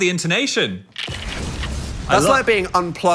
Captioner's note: bomb explodes